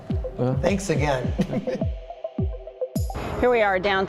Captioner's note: laughs